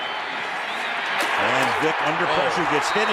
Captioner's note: cheering